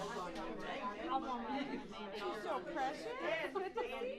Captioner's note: group chatters